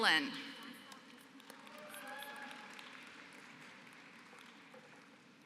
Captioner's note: applause